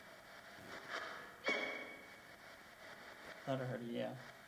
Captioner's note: distant voice yips faintly